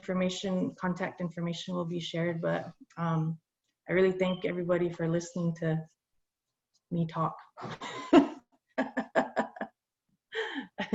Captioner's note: laughs